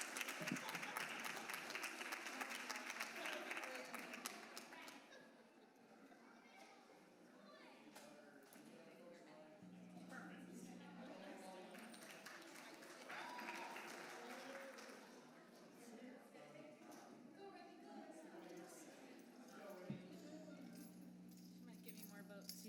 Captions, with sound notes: >> THANK YOU FOR YOUR SUPPORT, AND GO WILDCATS. [APPLAUSE]